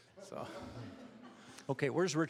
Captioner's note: audience chuckling